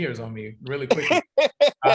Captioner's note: laughs